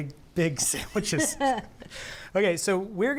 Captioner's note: laughs